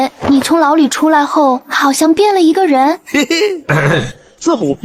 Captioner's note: chuckles